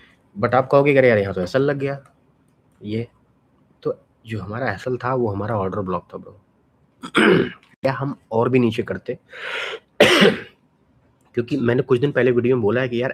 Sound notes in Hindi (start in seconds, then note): 7.0 गला साफ़ करने की आवाज़; 7.0 खांसने की आवाज़